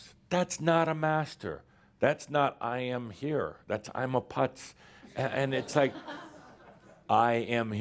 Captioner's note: a few chuckles